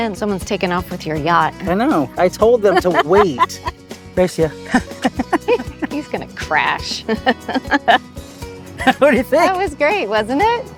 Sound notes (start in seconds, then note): 2.7 laughing; 8.2 laughs